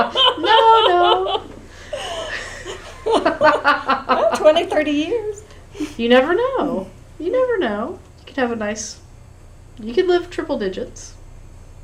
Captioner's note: laughter